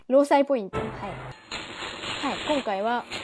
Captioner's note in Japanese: 効果音